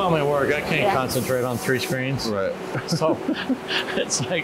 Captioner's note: giggles